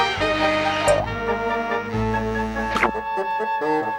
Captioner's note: spring boings; air whooshing